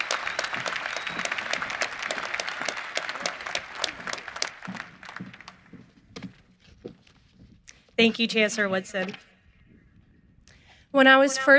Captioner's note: cheering and applause